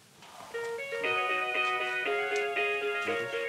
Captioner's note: musical ringtone